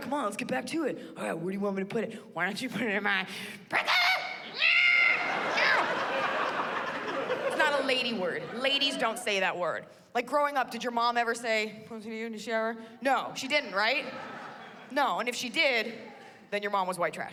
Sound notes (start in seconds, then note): 3.8 screams